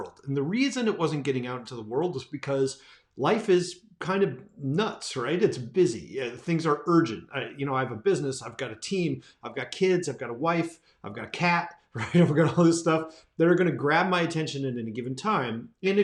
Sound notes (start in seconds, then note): 11.9 laughs